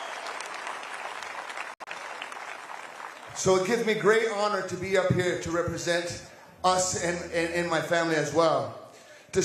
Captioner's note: applause